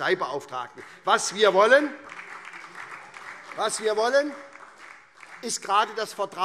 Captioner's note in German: Beifall SPD